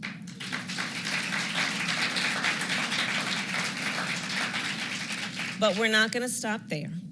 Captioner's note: applause